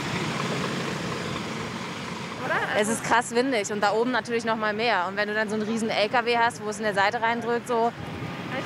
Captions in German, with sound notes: (Motorenbrummen) Es ist krass windig, da oben noch mal mehr. Wenn du 'nen Riesen-Lkw hast, wo's in die Seite reindrückt ...